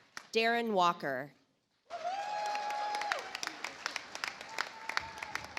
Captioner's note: audience applauds